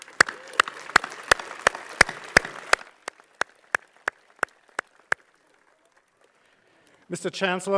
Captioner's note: applause